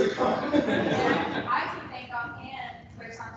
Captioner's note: laughter